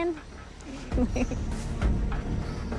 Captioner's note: chuckles